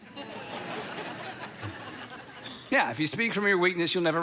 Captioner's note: audience laughs